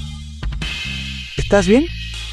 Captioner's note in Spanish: campana